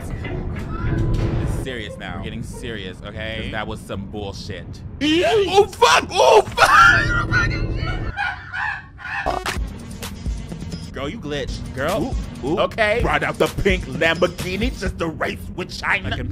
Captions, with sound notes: Serious now, getting serious, okay? 'Cause that was some bullshit! (character screams) Oh fuck! Oh fuck! (laughing) Fucking shit. (video buzzes) Girl you glitch, girl, oh, okay, ride up the pink Lamborghini this the race with China!